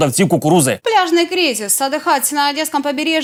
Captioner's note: spoken in Russian